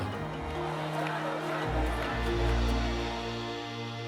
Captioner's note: chanting